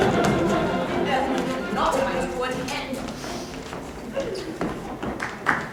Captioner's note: music concludes; KATISHA mutters; applause